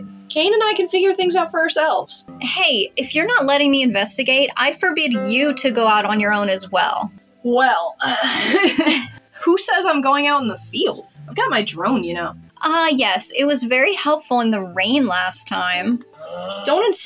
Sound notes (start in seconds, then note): 8.1 chuckle; 8.1 laugh